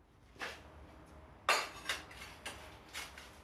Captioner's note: clinking